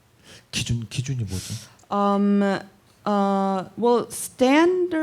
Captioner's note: speaking korean